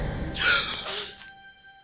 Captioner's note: loud swooshing, wings flapping, eerie breath; Cora gasps; Martha gasps